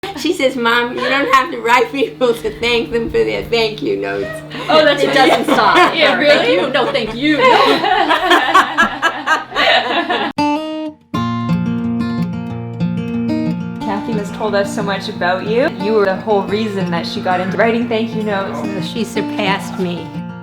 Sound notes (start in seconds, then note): 4.0 laughing; 11.0 gentle music